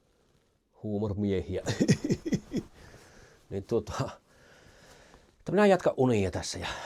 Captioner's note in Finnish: naurua